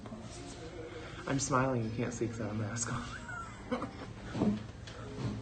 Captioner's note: laughs